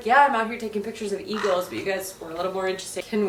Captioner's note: eagle screeches